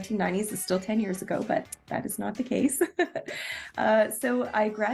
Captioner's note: giggles